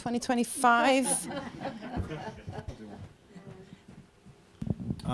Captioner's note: laughter